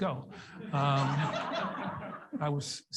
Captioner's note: audience laughs